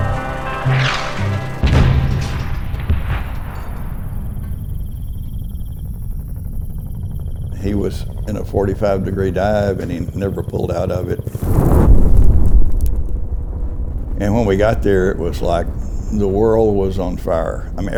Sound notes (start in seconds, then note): 1.6 mortar BLAST; 11.3 explosion